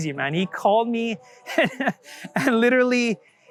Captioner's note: laughs